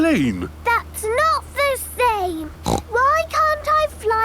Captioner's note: snorting